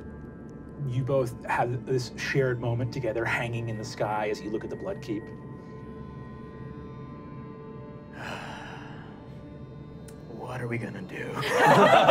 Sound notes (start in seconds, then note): 8.1 sighs; 11.4 laughing